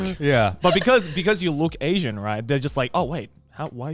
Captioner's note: men laugh